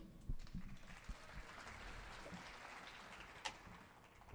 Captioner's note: audience applauding